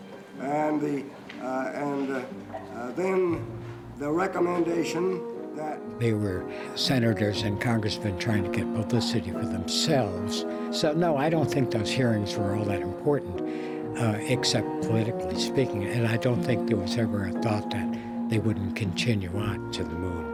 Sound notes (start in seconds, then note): none